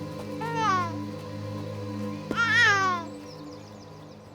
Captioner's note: Brady cooing